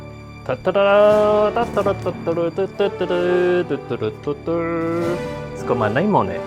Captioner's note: attempt at fanfare sounds